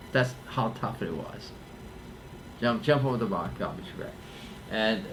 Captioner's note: none